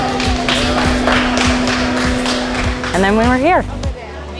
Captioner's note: upbeat music; crowd applauds